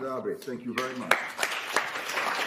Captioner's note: applause